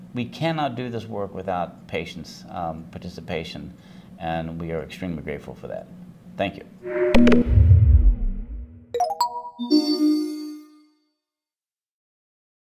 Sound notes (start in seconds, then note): 6.8 air whooshing; 8.9 xylophone trills